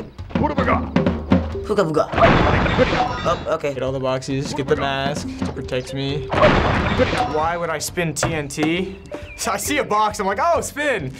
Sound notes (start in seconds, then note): 0.1 mutters; 2.2 boom!; 6.2 boom!